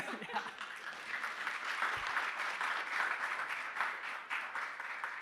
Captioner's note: audience and panelists laughing; audience applauding